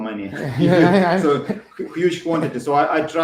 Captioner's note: both laugh